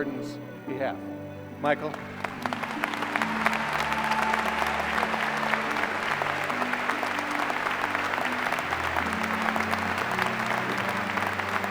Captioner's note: applause